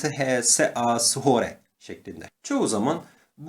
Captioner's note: reading English letters with Turkish pronunciation